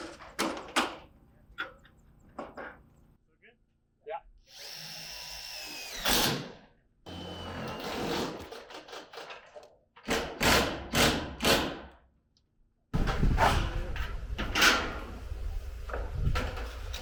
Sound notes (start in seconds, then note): none